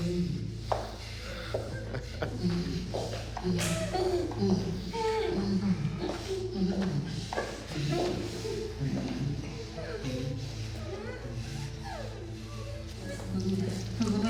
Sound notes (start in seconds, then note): 0.6 footsteps tapping; 7.9 victims groaning; 11.0 dramatic music; 14.1 victims groaning